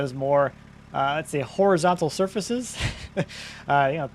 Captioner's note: laughs